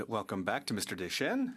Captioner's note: speaking French